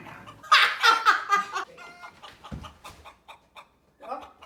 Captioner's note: laughing